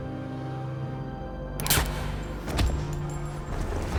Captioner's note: fires gun